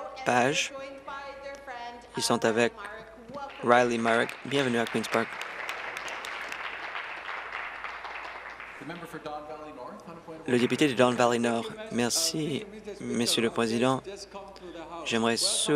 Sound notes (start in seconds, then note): 10.4 applause